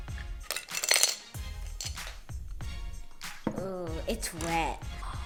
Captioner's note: clunking